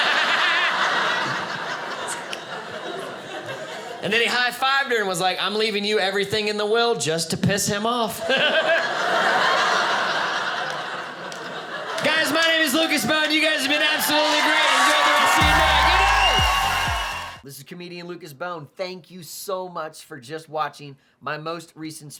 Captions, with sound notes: (audience laughing) And then he high fived her, and was like, "I'm leaving you "everything in the will "just to piss him off." (audience laughing) Guys, my name is Lucas Bohn. You guys have been absolutely great. Enjoy the rest of your night. Good night. (audience cheering)